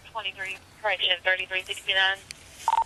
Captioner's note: radio chatter